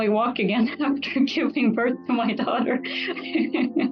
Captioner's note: laughs